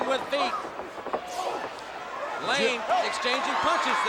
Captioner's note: crowd chatter